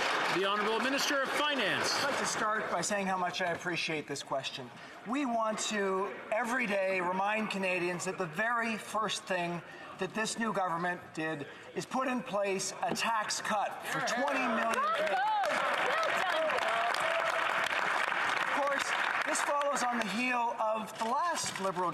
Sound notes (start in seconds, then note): 2.8 some Applause; 19.9 some Applause